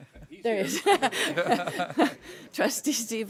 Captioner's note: people chuckling